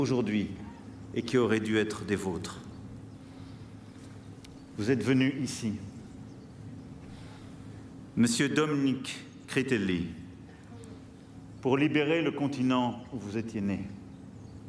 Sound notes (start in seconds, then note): 5.0 speaking french